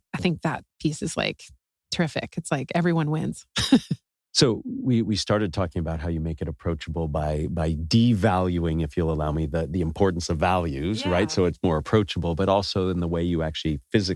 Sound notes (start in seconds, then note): 3.6 laugh